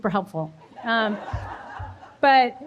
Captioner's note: audience laughing